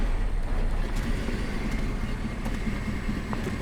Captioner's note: none